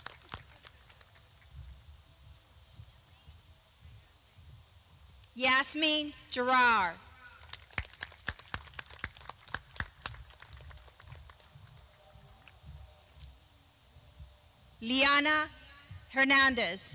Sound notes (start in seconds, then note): 5.2 clapping